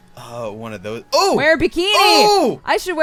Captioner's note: cry